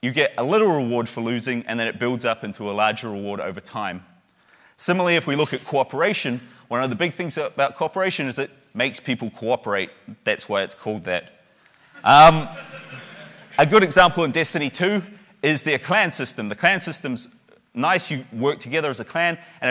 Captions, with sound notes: you get a little reward for losing, and then it builds up into a larger reward over time. Similarly, if we look at cooperation, one of the big things about cooperation is it makes people cooperate. That's why it's called that. (a few loud laughs) A good example in Destiny 2 is their clan system. The clan system's nice, you work together as a clan.